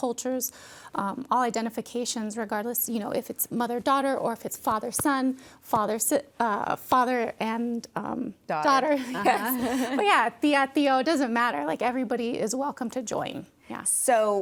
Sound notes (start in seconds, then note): 8.9 laughs; 9.0 chuckles